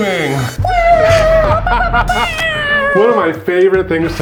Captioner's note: cheers